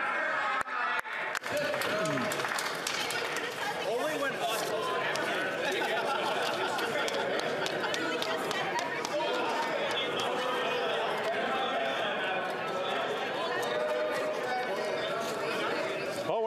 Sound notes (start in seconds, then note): 4.7 yelling